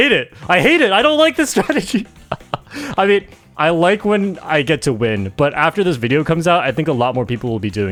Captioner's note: laughs